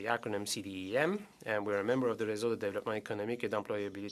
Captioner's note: speaking French